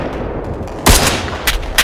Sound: marksman rifle shot

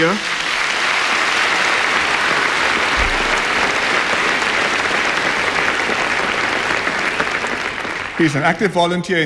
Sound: applause

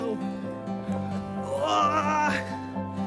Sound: groans

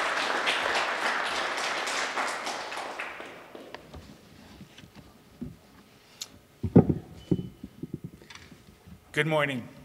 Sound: applause

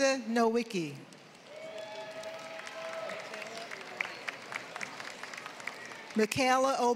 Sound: applause

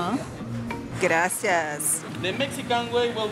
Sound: in Spanish

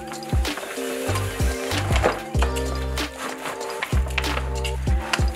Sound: bag rustling

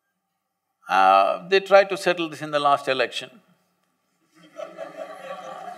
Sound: laughter

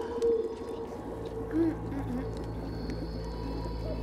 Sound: distorted voices in unison; humming

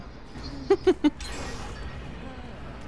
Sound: giggles

